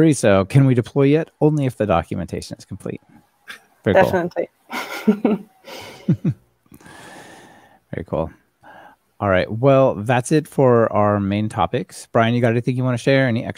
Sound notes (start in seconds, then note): 4.7 laughing